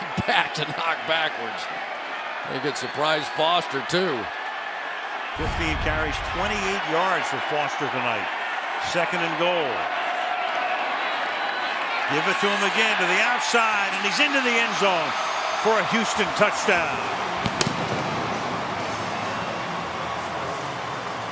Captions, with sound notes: That's a big back to knock backwards. I think it surprised Foster too. 15 carries, 28 yards for Foster tonight. Second and goal. Give it to him again to the outside, and he's into the end zone for a Houston touchdown. [crowd cheering]